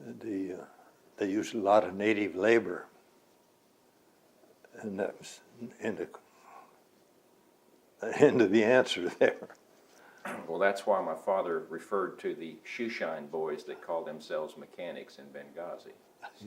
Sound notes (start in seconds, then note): 9.0 laughs